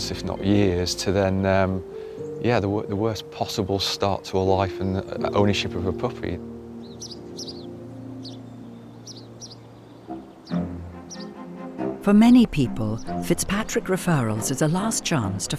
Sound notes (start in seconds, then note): 7.4 birds chirping